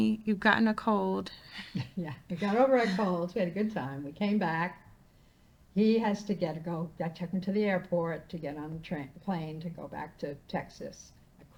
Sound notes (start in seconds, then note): 2.3 laughing